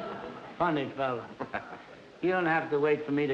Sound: chuckles

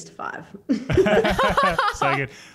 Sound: all laugh

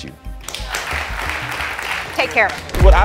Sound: audience applauds

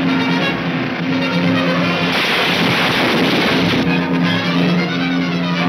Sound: crashing; exciting orchestra music

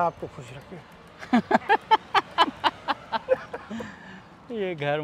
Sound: laugh

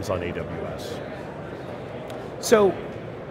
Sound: background indistinct chatter

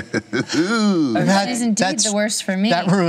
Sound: laughs

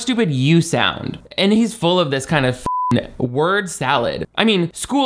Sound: beep

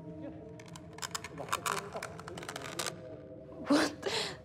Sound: scratching

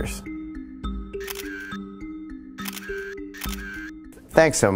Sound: suspenseful music; camera clicking

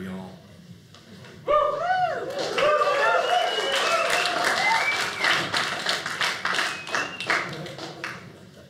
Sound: audience cheers

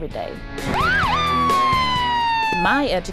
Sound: sirens

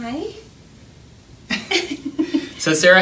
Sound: laughing

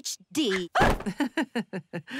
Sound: chuckles

